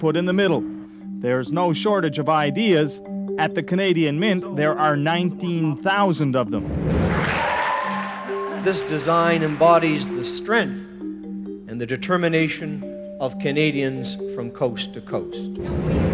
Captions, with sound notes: is what design to put in the middle. There's no shortage of ideas-- at the Canadian Mint, there are 19,000 of them. [applause] This design embodies the strength and the determination of Canadians from coast to coast.